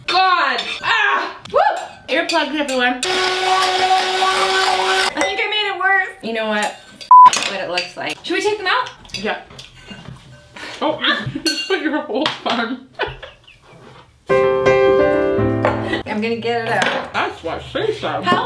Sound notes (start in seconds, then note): 3.0 whirling mixer; 13.5 laughs; 14.3 piano music